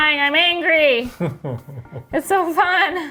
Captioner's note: laughs